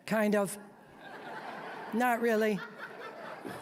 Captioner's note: audience laughing